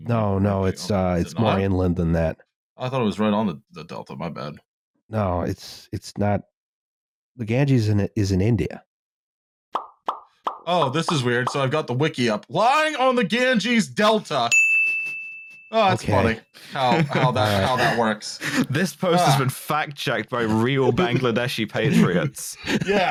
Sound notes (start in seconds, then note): 9.7 pop, pop, pop, pop, pop; 14.5 ding!